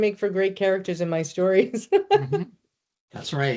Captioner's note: laughing